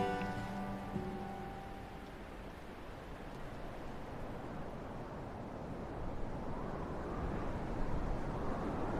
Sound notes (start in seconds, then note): 4.3 wind blowing